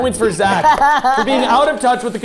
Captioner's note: laughing